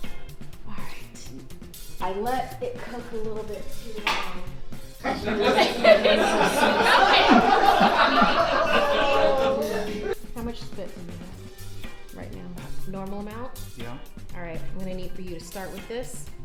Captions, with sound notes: All right, I let it cook a little bit too long. (audience laughs) How much spit for you have? Right now, normal amount? - Yeah. - All right, I'm gonna need for you to start with this,